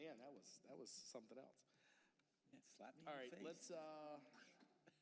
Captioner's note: laughter